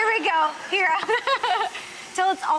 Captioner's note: laughs